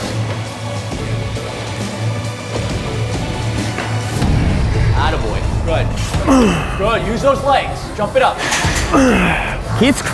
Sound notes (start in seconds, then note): 0.3 dramatic music; 6.1 grunting; 8.5 grunting